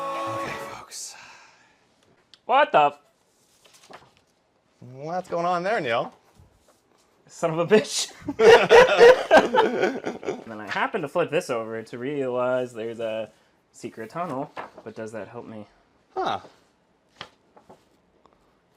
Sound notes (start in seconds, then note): 8.2 laughter